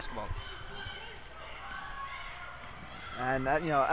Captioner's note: crowd talking and yelling